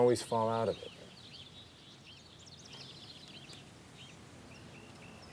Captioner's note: birds chirping